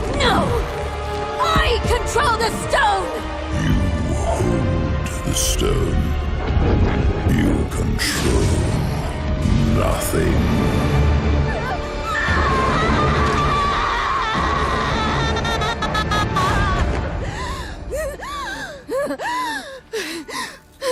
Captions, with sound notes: No! I control the Stone! [demonic voice] You hold the Stone. You control nothing. [Neyrelle screaming] [gasping and sobbing]